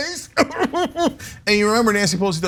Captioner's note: laugh